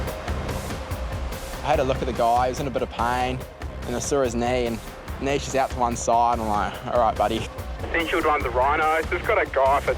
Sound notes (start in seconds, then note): 7.8 on the radio